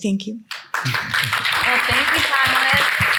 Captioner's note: attendees clapping